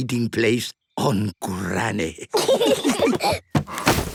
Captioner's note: laughter